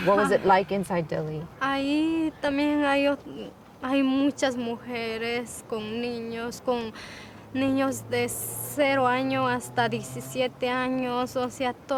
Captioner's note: Spanish